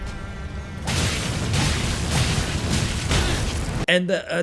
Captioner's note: weapon slashes